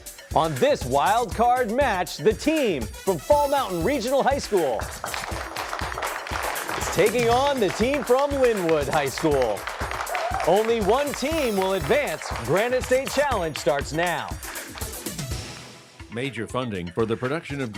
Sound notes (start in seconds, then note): 5.0 applause; 9.7 applause continues